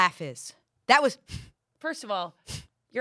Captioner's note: exhales